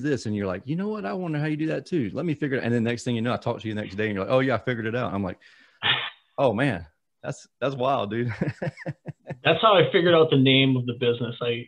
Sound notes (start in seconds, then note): 8.3 laughs